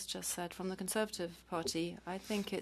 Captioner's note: speaking French